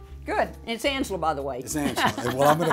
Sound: laughs

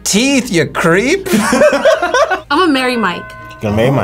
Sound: both laugh

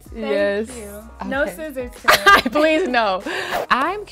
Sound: laughter

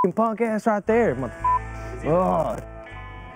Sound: beep

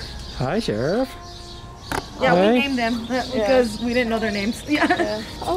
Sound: birds chirping; laughter

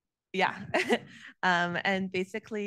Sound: chuckling

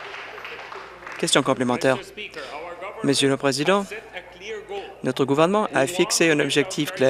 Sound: applause

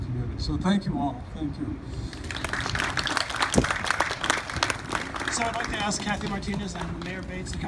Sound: crowd claps

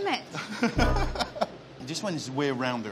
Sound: laughs

